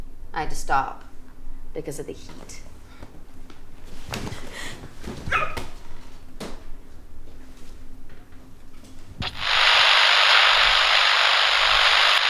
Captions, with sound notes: I had to stop because of the heat. (Jessie shrieking) (camera buzzing)